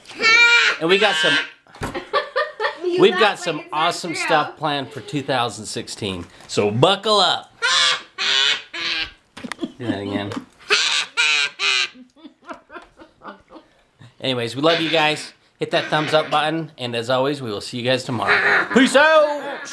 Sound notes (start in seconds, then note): 0.3 yelling; 7.6 yelling; 12.3 laughing